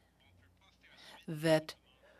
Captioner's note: speaking French